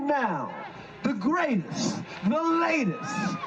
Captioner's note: cheers